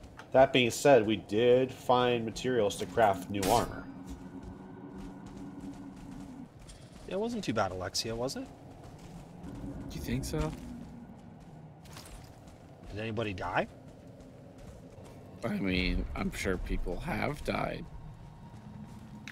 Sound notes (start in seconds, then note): none